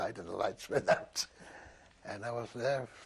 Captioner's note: laughs